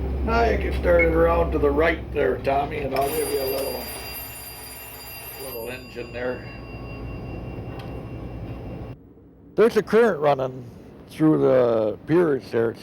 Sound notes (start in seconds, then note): 2.9 ringing